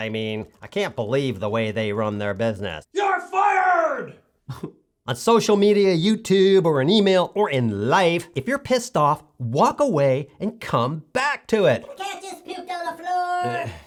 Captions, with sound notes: mean I can't believe the way they run their business YOU'RE FIRED!! [CRIES] On social media, YouTube, on email, or in life, if you're pissed off, walk away, and come back to it. The cat just pooped on the floor